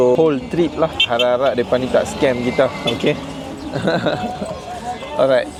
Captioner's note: laugh